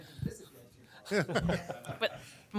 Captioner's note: laughter